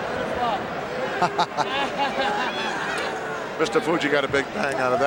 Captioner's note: Pat chuckles